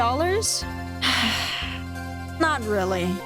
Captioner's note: sigh